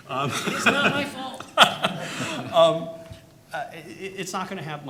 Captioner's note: audience laughing